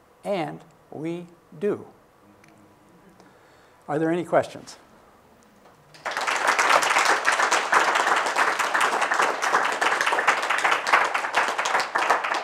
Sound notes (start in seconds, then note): 5.9 applause